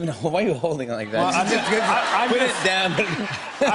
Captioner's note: laughter